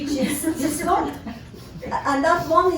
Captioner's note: scattered laughter